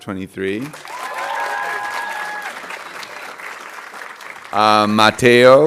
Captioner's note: audience cheering and applauding